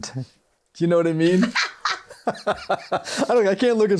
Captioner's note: both laughing